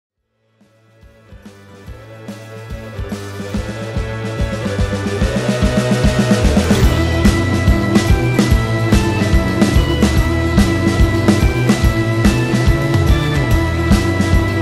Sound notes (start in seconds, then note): 1.0 theme tune playing; 6.4 sound of Neon light turning on